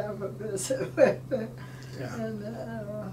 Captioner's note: laughing